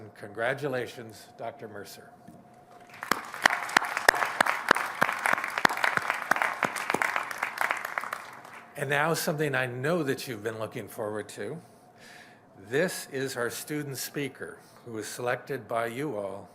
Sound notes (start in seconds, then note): 2.8 applause